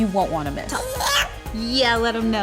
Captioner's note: baby babbles